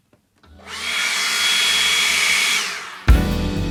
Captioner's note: leaf blower